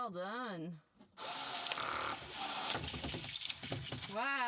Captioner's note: whirring